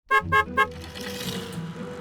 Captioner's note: car horn